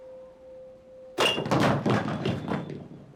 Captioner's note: clattering